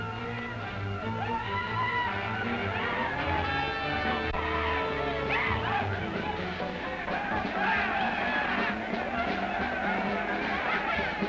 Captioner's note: yelling and cheering